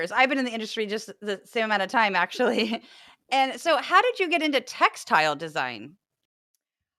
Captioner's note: laugh